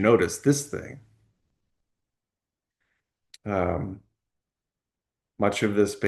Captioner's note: pause